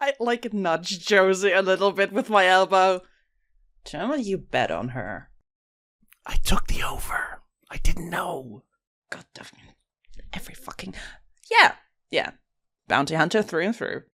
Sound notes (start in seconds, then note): 6.2 whispering; 11.2 normal voice